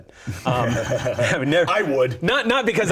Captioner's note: laughing